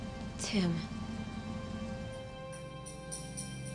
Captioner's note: none